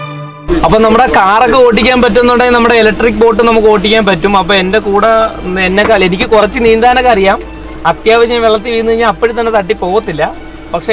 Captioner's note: explanation in Malayalam